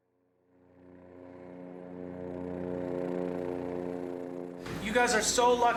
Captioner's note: helicopter sound